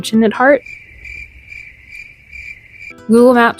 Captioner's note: crickets